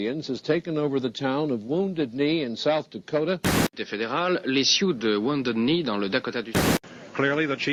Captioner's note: speaking foreign language